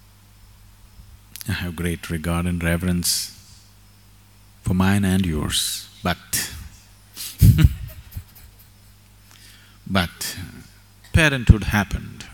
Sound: laughs

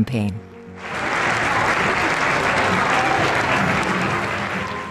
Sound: applause

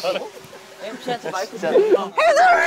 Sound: laughing

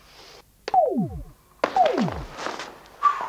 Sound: blip

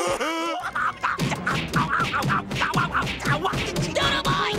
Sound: laughing; screaming

